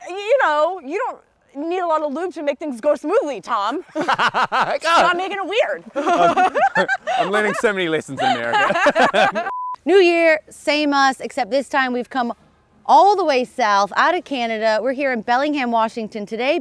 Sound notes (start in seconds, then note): 3.8 laughs; 8.9 both laughing